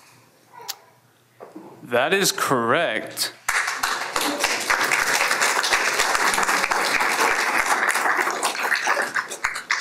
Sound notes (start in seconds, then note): 3.4 applause